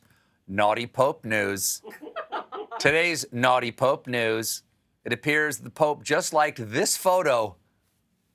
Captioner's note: laughter